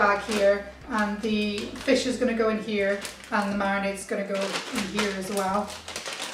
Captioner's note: bag rustles